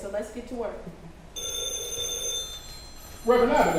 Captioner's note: phone ringing